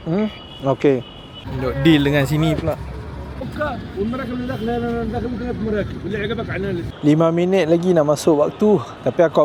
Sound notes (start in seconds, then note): 3.4 speaking Arabic